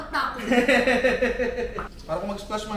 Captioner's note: laughs